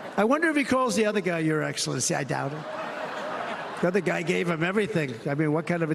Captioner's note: cheers and applause